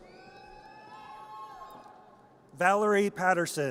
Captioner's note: audience cheers